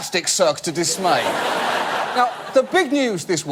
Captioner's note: audience laugh